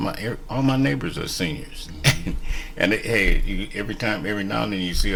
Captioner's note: laughs